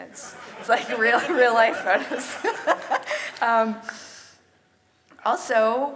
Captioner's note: audience laughs; laughs